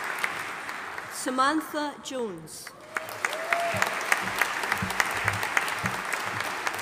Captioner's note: audience applauding